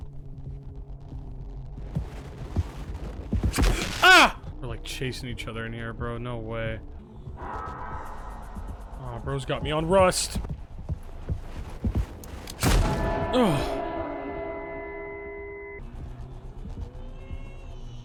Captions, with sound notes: (gasps) We're like chasing each other in here, bro. No way. Bro's got me on "Rust"! (gun fires) (bell tolls)